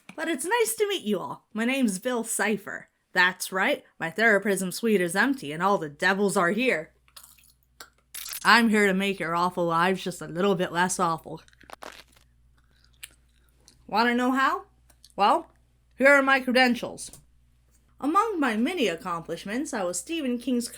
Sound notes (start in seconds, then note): 7.0 glue bottle squirts